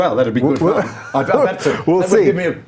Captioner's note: laughing